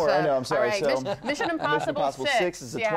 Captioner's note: laughter